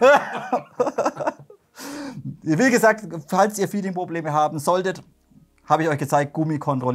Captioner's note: laughter